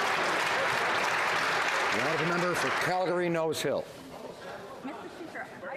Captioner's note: some Applause